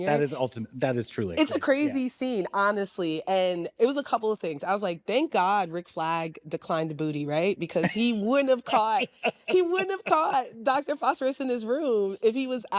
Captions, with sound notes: -That is ulti-- That is truly-- -It's a crazy scene honestly and it was a couple of things. I was like thank god Rick Flag declined the booty, right? -(LAUGHS) -Because he wouldn't have caught-- He wouldn't have caught Doctor Phosphorus in his room if he was out,